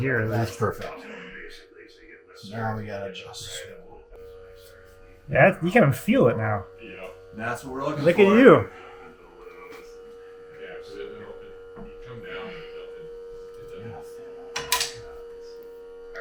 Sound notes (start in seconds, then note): 9.3 installers chattering; 9.3 machinery buzzing; 14.4 machinery buzzing; 14.7 wood clattering